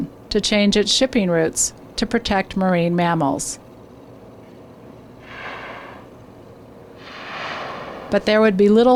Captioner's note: whales breathing